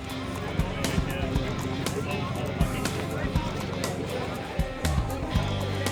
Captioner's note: indistinct crowd chatter